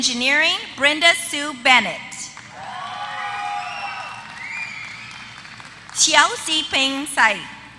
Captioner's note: applause